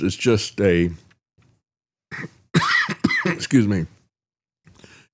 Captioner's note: coughs